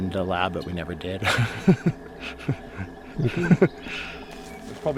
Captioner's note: laughs